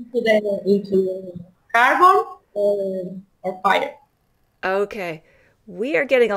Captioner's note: technical sounds